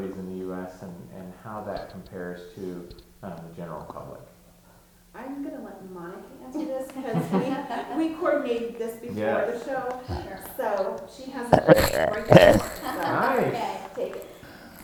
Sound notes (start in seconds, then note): 7.3 chuckling; 13.0 laughing